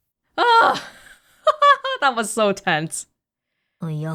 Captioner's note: chuckles